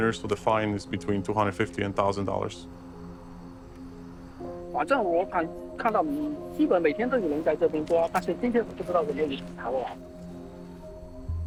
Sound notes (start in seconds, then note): 3.2 dramatic music; 4.9 speaking in foreign language